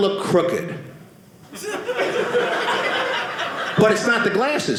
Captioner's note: audience laughing